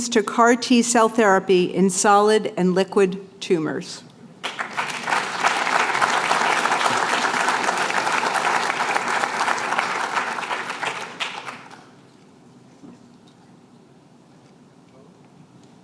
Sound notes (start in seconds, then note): 4.4 applause